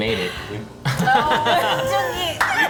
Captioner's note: all laugh